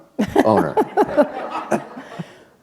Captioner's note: laughter